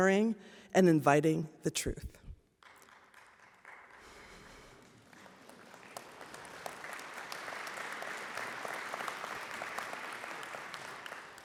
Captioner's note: applause